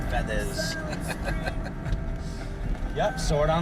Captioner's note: chuckling